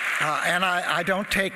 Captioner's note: applause